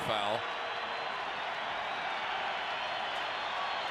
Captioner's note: crowd cheering